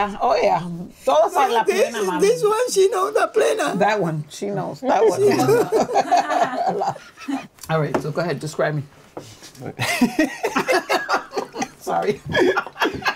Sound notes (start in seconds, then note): 5.0 laughing; 10.9 laughing